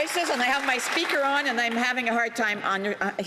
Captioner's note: some Applause